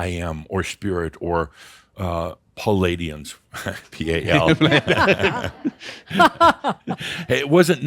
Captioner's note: they chuckle and laughs